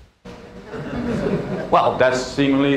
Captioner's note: laughter